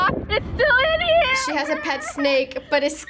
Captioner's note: cries